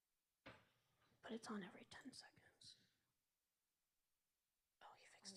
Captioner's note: whispering